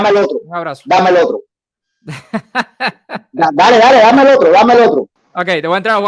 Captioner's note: laughs